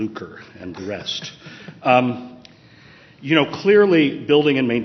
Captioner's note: chuckling